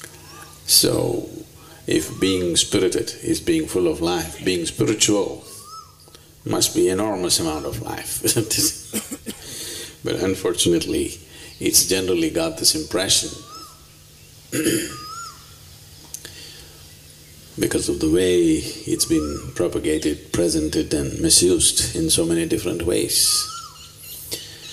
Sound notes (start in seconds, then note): 7.3 laughs